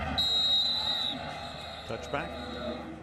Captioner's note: whistle blows